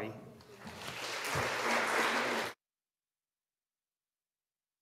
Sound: audience applauding

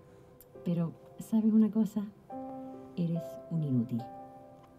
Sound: computer speaking in foreign language

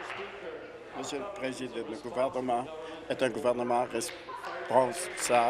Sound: applause

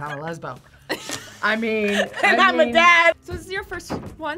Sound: laughs

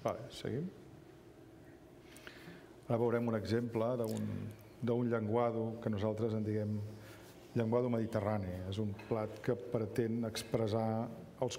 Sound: speaking catalan

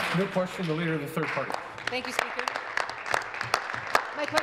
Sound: applause

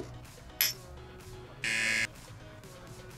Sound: buzzer

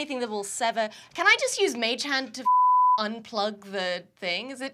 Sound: beep

